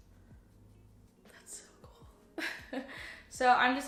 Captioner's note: laughs